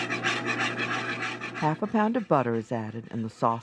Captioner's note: voiceover